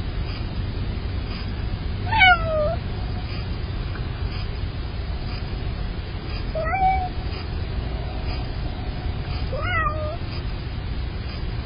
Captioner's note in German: Smoking-Kitty miaut